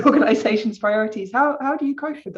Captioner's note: chuckles